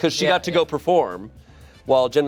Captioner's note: none